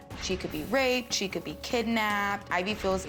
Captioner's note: none